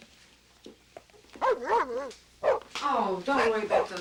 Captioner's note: dog barking